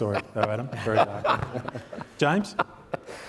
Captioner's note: panelists laughing